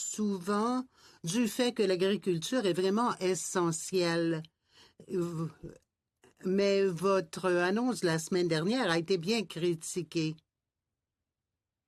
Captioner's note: speaking French